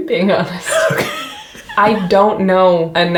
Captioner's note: wheezes